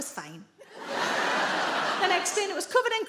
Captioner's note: audience laughs